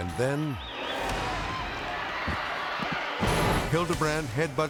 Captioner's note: spectators shouting